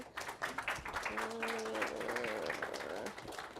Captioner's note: applause